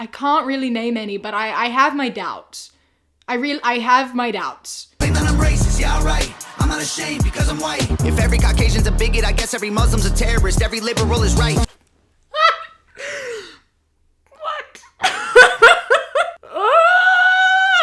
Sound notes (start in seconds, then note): 16.6 yelling